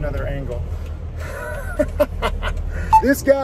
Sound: laughing

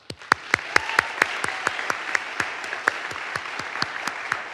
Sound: audience applauds

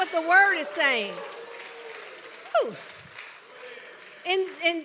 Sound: congregation applauds

